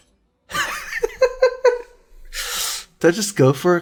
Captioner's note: laughs